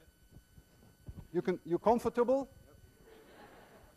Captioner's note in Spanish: Los estudiantes se ríen